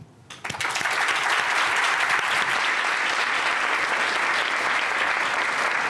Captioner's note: applause